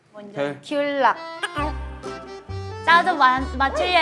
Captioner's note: surprised